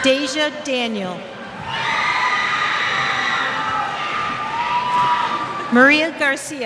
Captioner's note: cheers